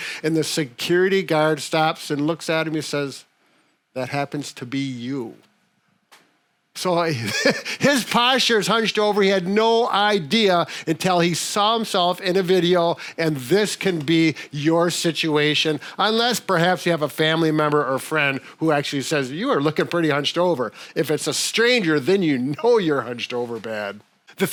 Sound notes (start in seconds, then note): 7.2 laughs